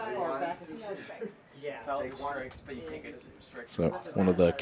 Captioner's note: indistinct chatter